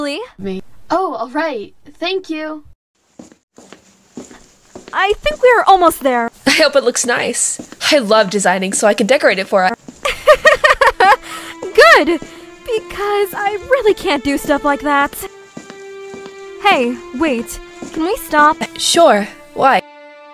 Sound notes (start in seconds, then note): 10.0 laughing